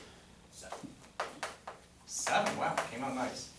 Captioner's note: voiceover